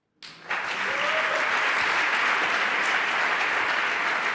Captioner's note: applause